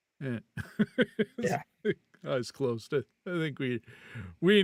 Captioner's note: laughing